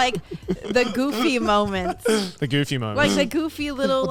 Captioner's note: hosts laugh